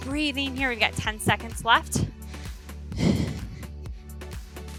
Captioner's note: exhales